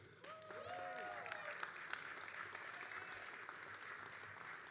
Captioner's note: all applauding